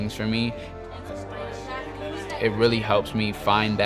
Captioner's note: students chattering